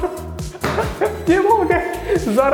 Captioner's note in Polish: Śmiech Antka